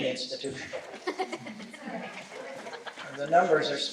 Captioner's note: laughter